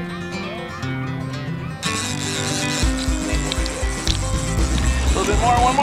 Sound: fishing rod reel spins

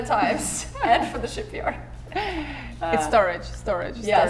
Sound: giggling

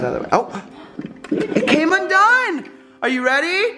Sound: gasps

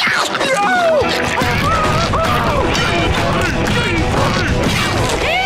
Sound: screaming, thudding

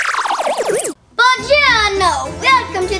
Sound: speaking in French

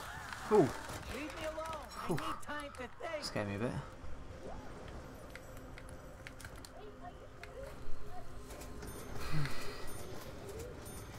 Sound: sigh

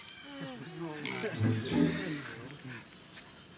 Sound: men chuckling

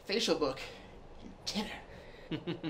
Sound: laughter

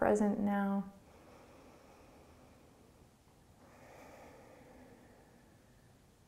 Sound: breathing

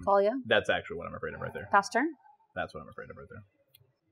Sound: sighs

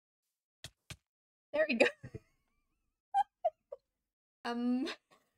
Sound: laughs

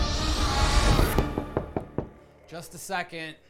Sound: knocking

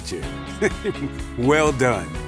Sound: chuckles

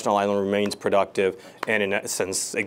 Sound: hands slapping together

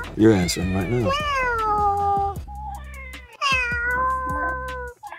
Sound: cat meowing

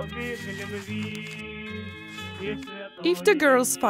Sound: paper riffling

